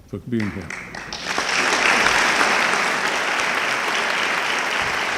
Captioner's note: audience clapping